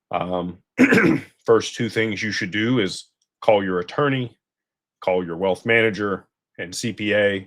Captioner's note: clears throat